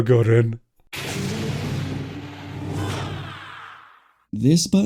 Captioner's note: very serious door sound